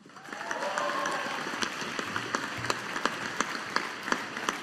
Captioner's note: audience applauding